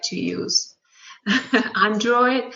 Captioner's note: laughs